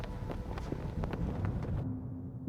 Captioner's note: flags flapping loudly